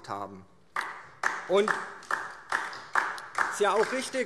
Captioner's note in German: Beifall DIE LINKE